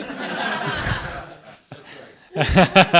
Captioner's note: audience laughing; laughing